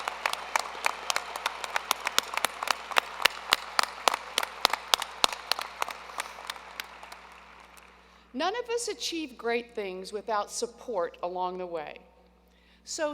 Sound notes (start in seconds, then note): 1.8 applause